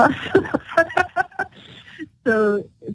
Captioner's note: laughter